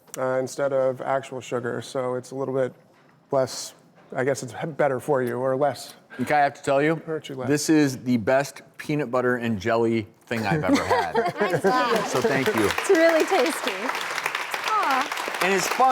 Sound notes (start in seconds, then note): 10.4 laugh; 14.8 applause